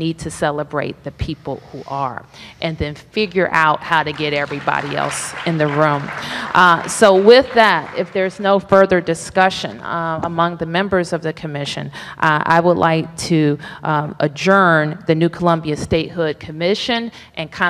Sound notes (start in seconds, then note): 6.6 applause